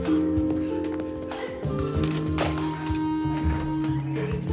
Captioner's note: ornament shatters